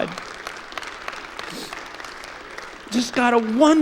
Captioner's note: clapping